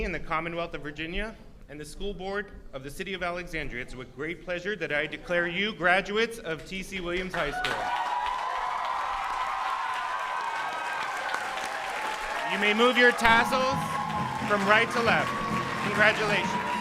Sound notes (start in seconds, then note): 8.1 audience cheers